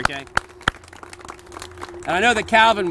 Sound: applause

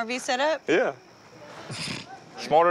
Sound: laughing

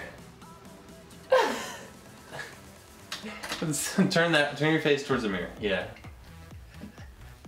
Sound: laughing

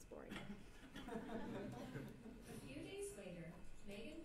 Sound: laugh

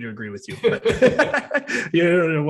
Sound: both laughing

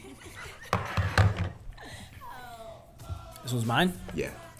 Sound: laugh

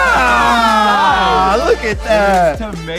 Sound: cheering

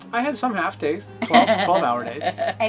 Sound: laughs

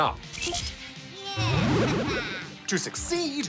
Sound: laughs

